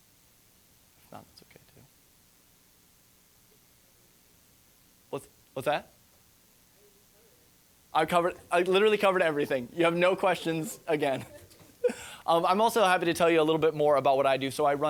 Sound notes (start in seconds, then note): 10.3 laughing